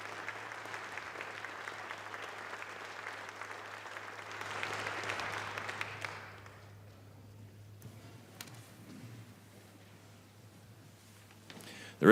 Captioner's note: applause